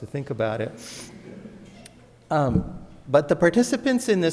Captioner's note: audience laughs